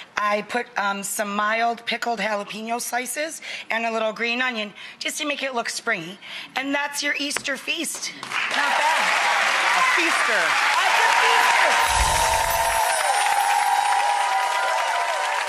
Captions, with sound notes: I put on some mild pickled jalapeno slices, and a little green onion, just to make it look springy. And that's your Easter feast. Not bad. (crowd cheers) A feaster. It's a feaster.